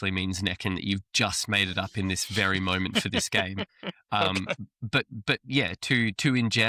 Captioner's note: laughs